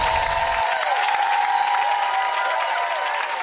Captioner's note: applause